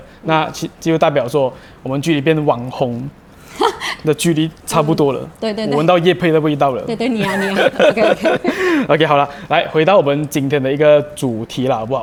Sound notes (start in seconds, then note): 7.1 laughter